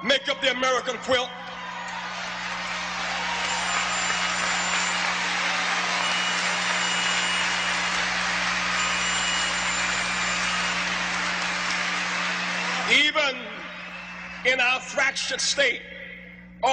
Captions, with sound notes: make up the American quilt. (crowd cheering and applauding) Even in our fractured state,